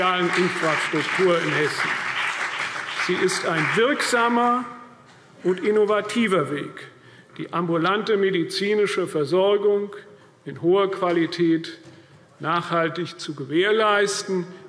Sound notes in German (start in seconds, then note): 2.4 Beifall CDU und BÜNDNIS 90/DIE GRÜNEN